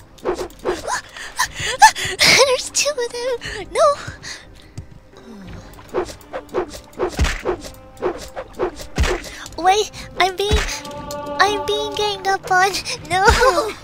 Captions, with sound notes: *panics* There's two of them, no! Wait, I'm being- I'm being ganged up on. Noo